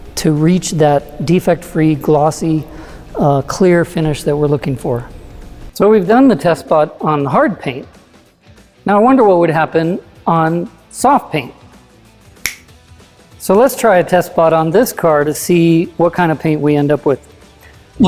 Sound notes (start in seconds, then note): 12.4 snapping fingers